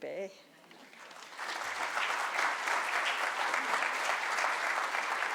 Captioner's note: audience applauding